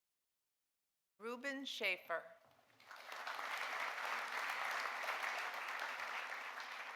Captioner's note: audience applauding